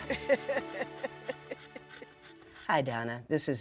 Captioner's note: laughs